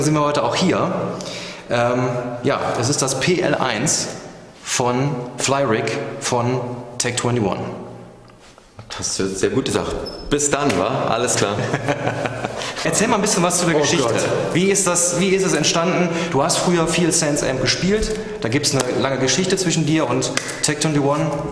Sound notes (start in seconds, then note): 11.3 laughs